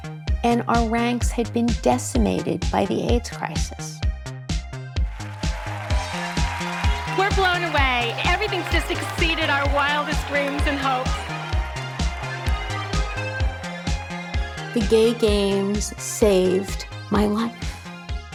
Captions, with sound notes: and our ranks had been decimated by the AIDS crisis. [audience cheering] We're blown away. Everything's just exceeded our wildest dreams and hopes. [bouncy pop music] The Gay Games saved my life.